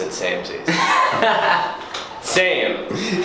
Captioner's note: laughs